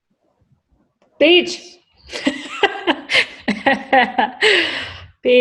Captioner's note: laughs